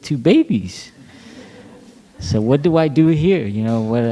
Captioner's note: laughter